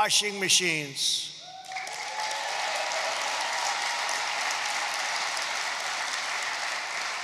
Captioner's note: applause